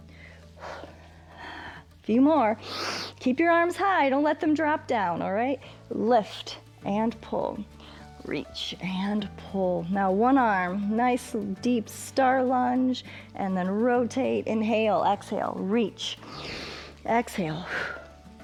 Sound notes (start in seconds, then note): 2.6 inhales; 16.2 exhales; 16.2 inhales